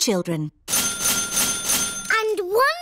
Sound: dinging

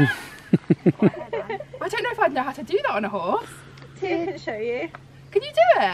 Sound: all laugh

